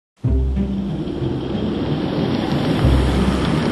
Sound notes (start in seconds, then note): 2.0 vehicle approaches